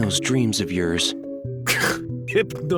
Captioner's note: scoffs